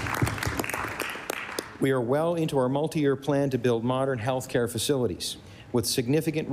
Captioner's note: applause